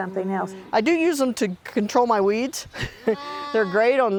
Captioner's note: laughs